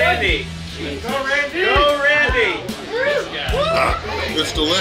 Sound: crowd cheering

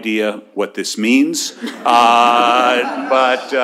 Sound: laughter

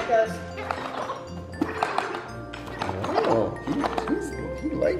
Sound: funny sounds from ball

